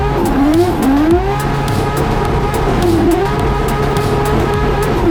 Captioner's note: race car revving continues